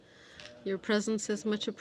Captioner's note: speaking French